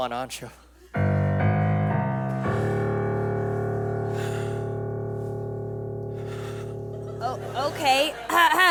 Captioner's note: ominous sound cue